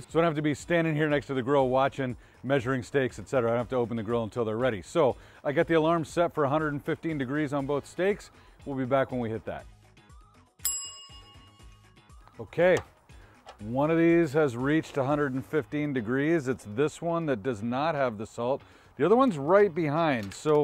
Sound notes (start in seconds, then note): 10.6 bell chimes